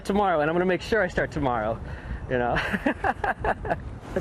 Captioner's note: laughs